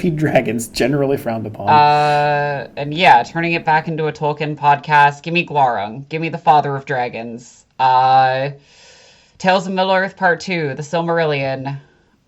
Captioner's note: ahh